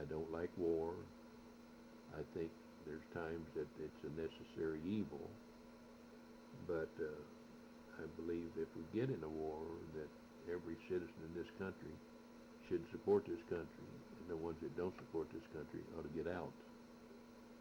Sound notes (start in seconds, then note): none